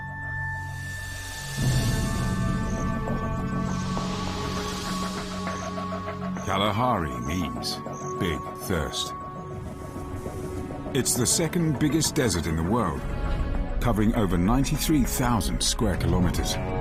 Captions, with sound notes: (dramatic music) (insects chirping) Kalahari means big thirst. It's the second biggest desert in the world, covering over 93,000 square kilometers.